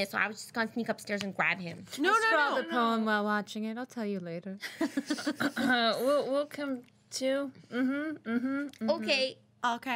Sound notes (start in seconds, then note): 4.6 girls laughing